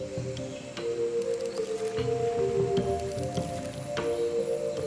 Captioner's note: cameras clicking